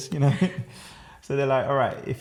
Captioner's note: laughter